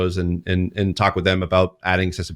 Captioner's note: none